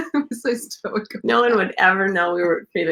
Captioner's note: laughs